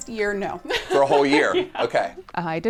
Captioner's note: laughs